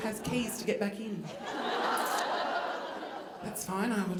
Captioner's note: audience laughing